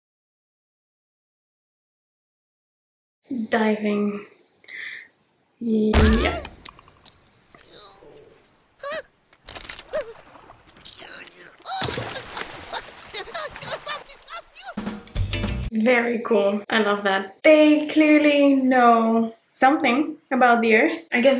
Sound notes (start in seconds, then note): 8.7 Scrat cries out softly; 8.8 Scrat yells; 9.5 ice cracks; 10.8 Scrat grunts; 11.7 Scrat splashes